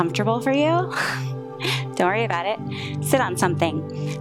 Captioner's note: chuckles